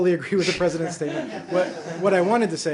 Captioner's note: laughter